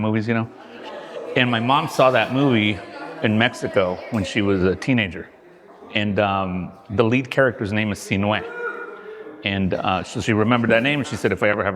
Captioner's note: laughing; mumbling; cheering